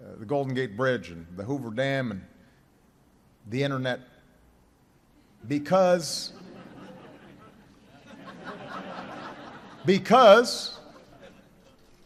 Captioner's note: laughter